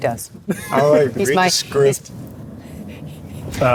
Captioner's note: laughs